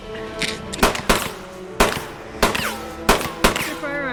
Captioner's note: gun firing